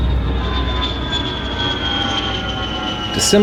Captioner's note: plane engines roar